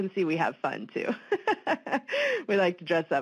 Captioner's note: laughs